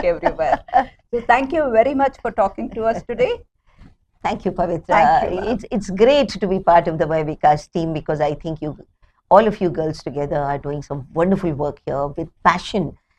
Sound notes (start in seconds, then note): 0.0 laughs